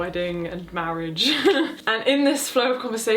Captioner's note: chuckles